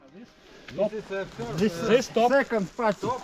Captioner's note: group chattering